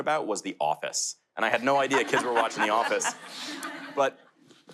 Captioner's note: laughter